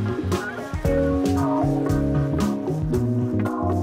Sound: none

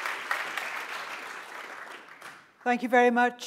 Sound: applause

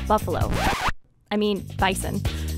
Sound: tape rewind sound effect

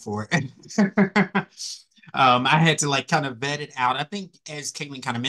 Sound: laugh

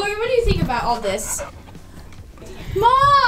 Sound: dog panting

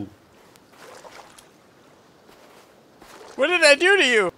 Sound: music halts; water gurgles

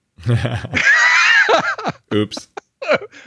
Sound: laughs

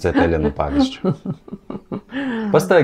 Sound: laughs in Lithuanian

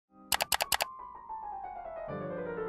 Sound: clicking; light piano music

